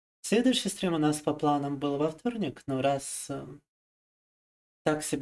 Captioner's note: speaking in foreign language